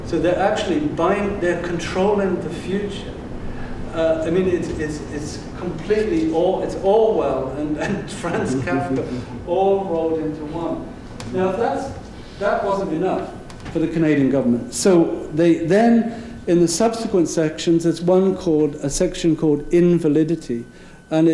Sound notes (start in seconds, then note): 7.7 laughing